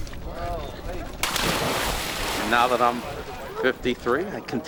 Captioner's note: laughs